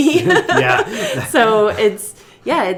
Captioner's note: laughing